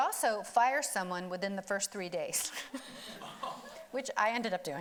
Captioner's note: chuckles